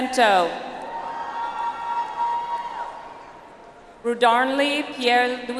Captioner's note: audience applauds